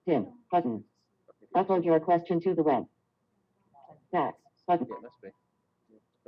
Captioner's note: Siri talking